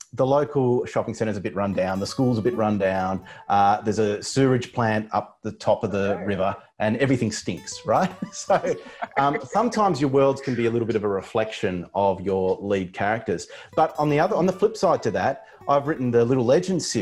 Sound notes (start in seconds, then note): 7.9 both laughs